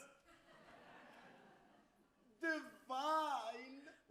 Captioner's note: crowd laughs